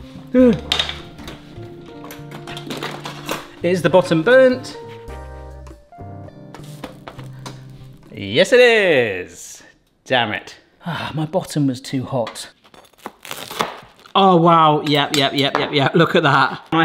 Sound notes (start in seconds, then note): 5.7 gentle rhythmic music; 12.9 sandwich crunching